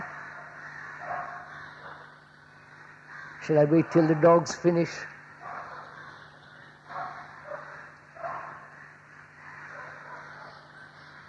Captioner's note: dog barking